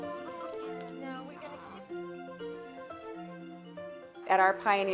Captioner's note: chickens clucking